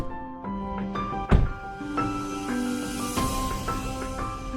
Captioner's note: car door closing